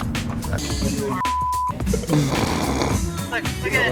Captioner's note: beep